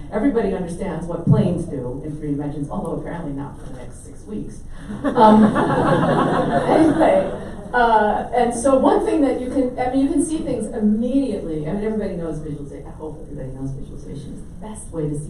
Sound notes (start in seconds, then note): 4.9 audience laughs